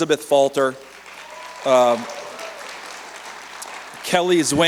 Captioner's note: cheers and applause